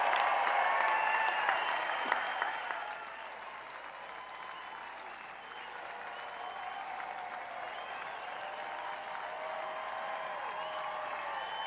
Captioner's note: cheers and applause